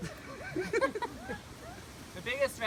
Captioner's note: laughter